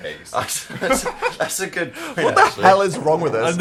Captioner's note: laughs